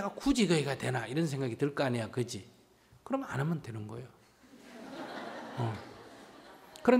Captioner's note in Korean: 청중웃음